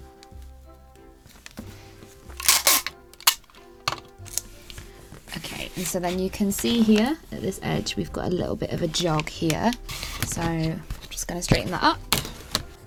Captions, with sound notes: [tape pulling and ripping] Okay and so then you can see here at this edge we’ve got a little bit of a jog here. So I’m just going to straighten that up.